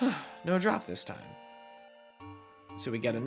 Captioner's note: dissapointed sigh